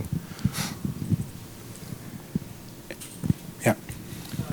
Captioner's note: sniffles